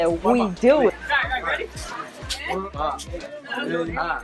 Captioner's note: chattering